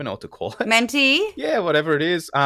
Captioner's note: laugh